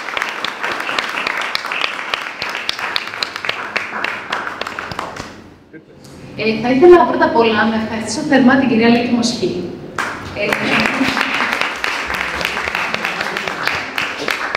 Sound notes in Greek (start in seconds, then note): 4.4 χειροκρότημα